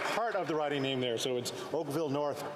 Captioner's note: applause